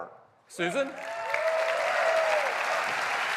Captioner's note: applause